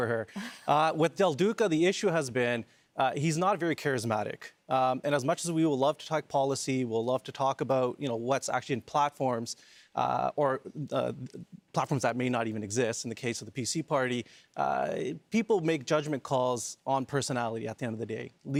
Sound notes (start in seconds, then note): none